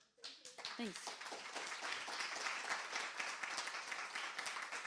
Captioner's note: applause